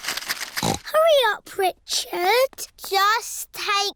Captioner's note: snorts